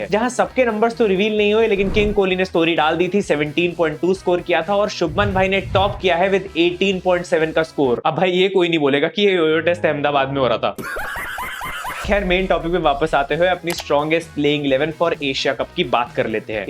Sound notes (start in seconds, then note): 10.8 laughing histerically